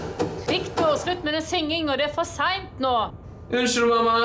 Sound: knocking on the door

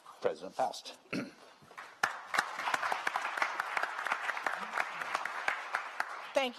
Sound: applause

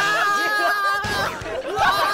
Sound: bump!

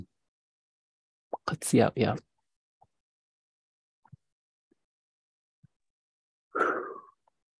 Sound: speaking in indigenous language

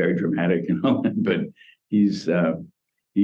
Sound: laughs

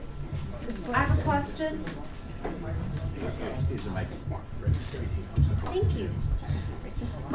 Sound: audience noise

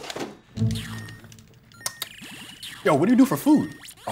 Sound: lips smacking

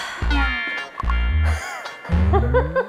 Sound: sighs

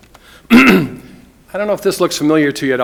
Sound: clears throat

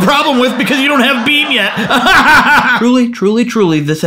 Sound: laughing

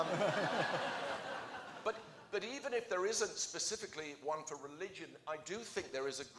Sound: laughter

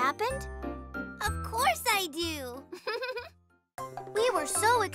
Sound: chuckles

